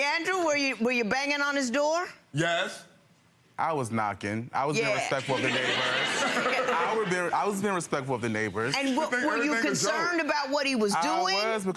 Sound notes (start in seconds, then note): 5.2 audience laughing